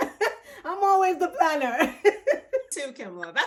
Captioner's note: laughs